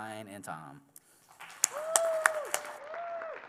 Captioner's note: applause